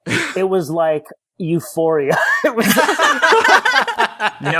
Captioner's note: laughter